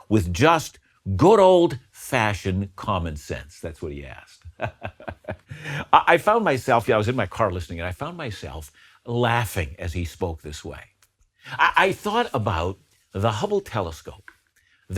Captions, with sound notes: with just good old fashion common sense?" That's what he asked. (laughs) I found myself, yeah, I was in my car listening, I found myself laughing as he spoke this way. I thought about the Hubble telescope,